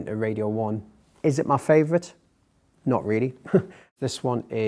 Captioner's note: laughs